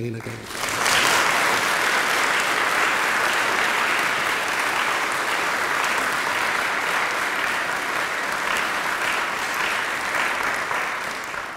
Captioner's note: applause